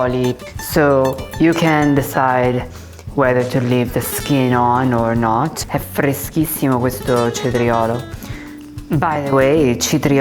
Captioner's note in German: spricht Italienisch